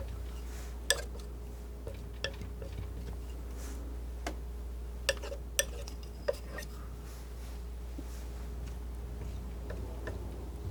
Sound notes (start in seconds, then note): 1.8 scratching